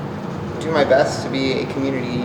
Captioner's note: none